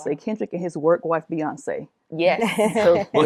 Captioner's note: laughter